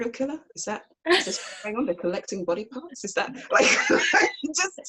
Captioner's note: laughs